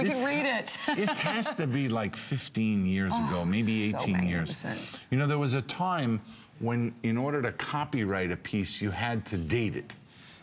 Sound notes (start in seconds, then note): 0.7 laughter